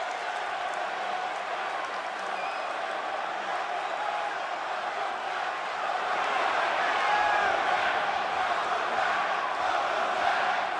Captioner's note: crowd cheering